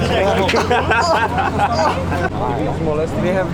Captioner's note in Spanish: ruiditos de dolor